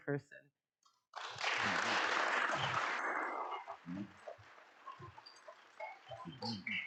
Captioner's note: audience clapping